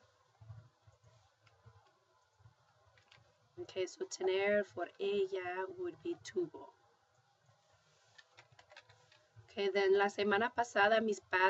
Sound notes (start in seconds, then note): 4.4 spanish; 9.8 speaking spanish